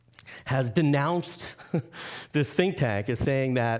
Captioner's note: chuckling